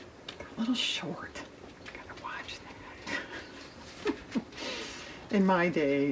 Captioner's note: whispers; laughs